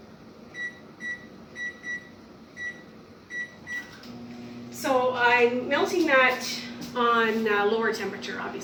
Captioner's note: starts microwave